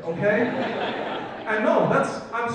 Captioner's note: audience laughs